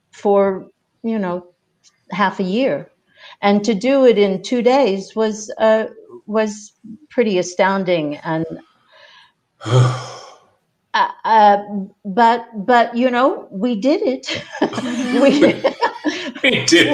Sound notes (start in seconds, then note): 9.6 sighs; 14.4 chuckling; 14.6 everyone laughing